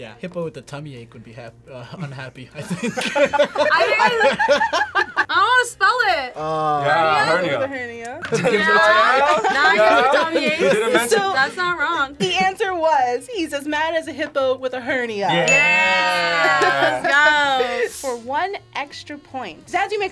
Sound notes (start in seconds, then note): 2.6 both laugh